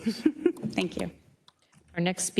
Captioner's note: chuckles